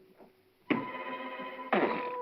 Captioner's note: whimsical music; glass sets down hard